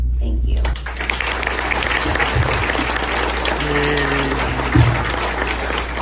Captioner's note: audience claps